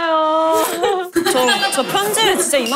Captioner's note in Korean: 끝낸 자의 여유 있는 웃음